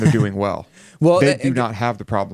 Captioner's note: laughs